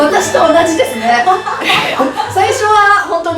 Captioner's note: haha